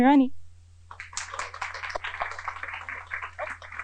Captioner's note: applause